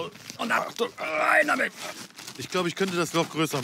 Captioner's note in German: Ächzen